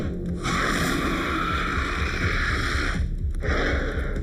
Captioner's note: shark growling